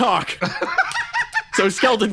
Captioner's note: laugh